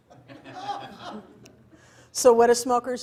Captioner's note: audience laughs